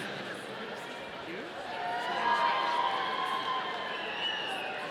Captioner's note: audience cheering